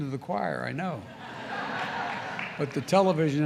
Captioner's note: laughter